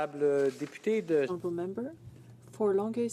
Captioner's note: some applause